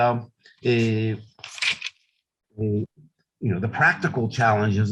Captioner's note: paper rustling